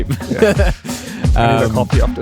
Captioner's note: both laughing